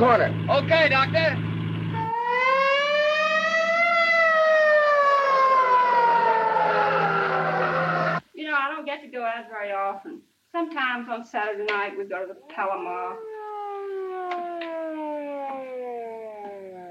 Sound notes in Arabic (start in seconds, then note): 1.9 صافرة الإنذار تدوي; 6.6 اصوات صرير الاطارات; 12.8 صفارة الإنذار تتلاشى